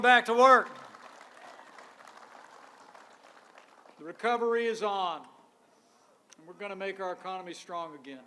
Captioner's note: applause